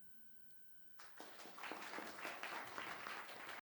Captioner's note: student applauding